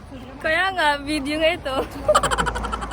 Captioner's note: laughing